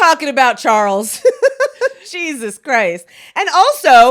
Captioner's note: laughs